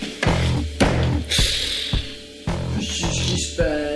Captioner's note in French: souffle apparemment énervée